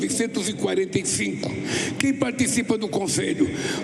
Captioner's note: Lula speaking in Portugues